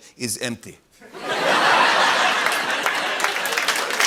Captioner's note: laughter and applause